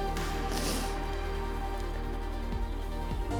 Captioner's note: sniffs